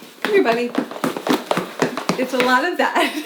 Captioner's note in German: stampfende Füße